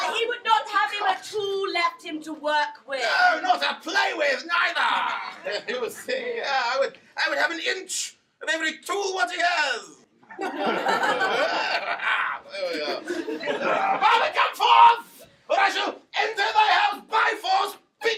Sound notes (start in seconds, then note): 10.3 audience laughing